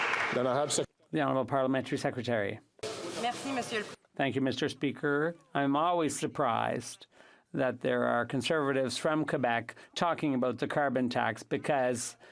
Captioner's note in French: applaudissements